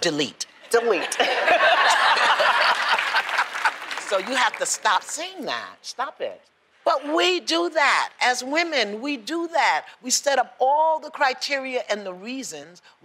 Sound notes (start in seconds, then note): 0.8 laughter; 2.7 applause